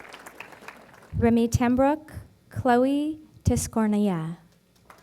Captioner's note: applause; applause